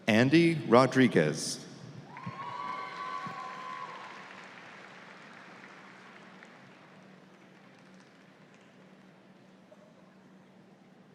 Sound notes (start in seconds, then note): 2.1 audience applauds